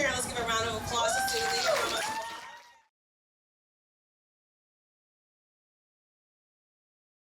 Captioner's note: audience applauding